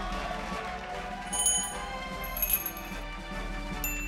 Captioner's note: cheers and applause; bells jingling